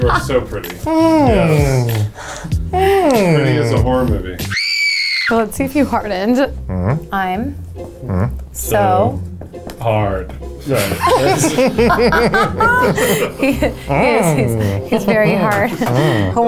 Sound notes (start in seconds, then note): 4.4 screams; 10.7 laughing